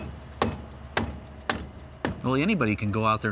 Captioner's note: hammer thudding